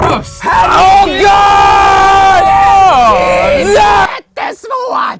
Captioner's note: screaming